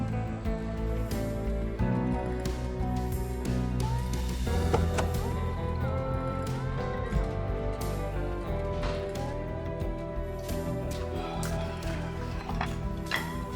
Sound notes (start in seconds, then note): 8.7 door shuts; 10.8 sighs